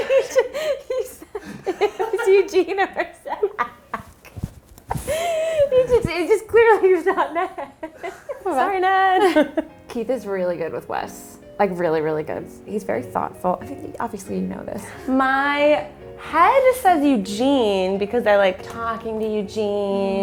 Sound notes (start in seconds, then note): 0.0 man off camera laughs; 5.0 laughs; 9.4 laughs